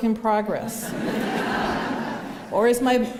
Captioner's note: laughter